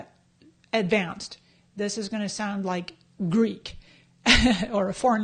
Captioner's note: laughs